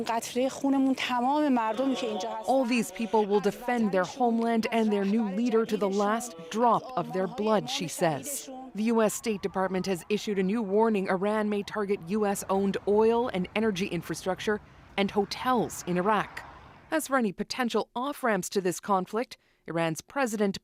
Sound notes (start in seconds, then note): 6.6 speaking alternate language